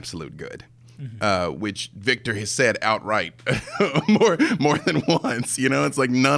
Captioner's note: laughing